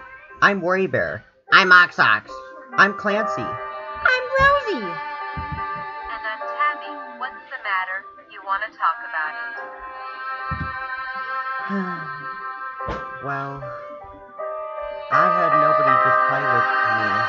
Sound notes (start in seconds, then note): 11.6 sighing